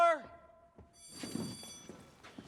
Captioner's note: bell rings